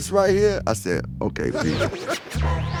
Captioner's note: laughing